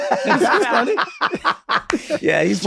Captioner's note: everyone laughs